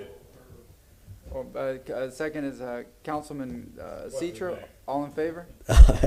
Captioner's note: laughter